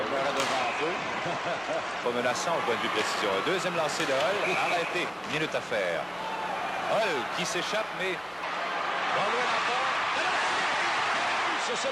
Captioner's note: laughs; announcer speaking French